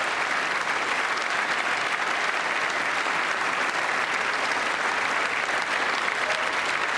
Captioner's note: applause